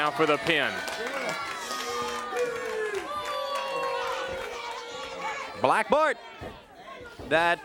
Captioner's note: crowd cheering